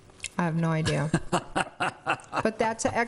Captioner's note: laughing